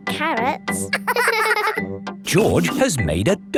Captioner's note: both laughing